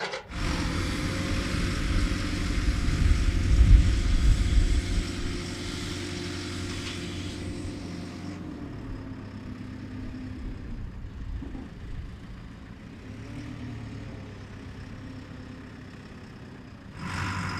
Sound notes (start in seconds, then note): 0.4 engine revving; 9.3 motor running